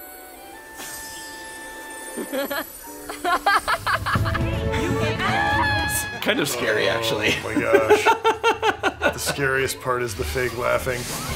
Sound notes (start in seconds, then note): 3.0 laughs